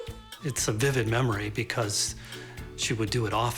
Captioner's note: laughs